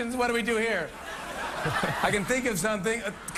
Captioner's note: laughter